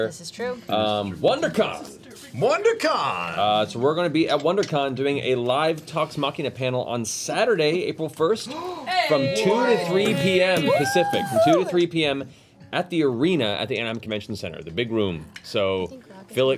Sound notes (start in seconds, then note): none